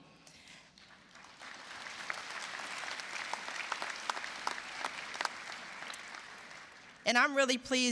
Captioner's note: applause